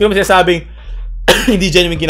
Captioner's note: cough